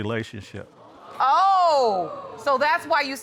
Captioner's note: audience exclaims